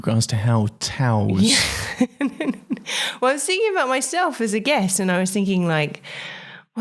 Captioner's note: laughs